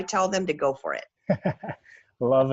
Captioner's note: laughs